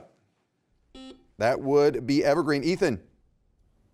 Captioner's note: buzzer beeps